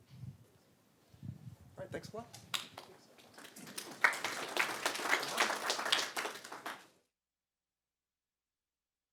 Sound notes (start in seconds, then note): 2.4 applause